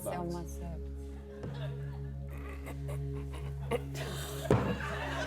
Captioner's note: laughs; grunts